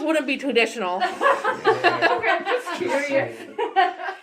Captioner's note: laughter